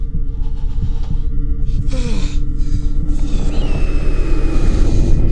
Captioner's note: Scott shudders and groans; tense menacing music